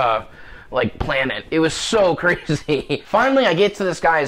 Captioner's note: laughs